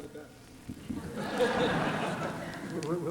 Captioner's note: laughter